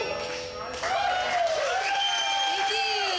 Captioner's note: audience cheering